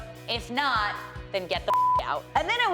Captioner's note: beep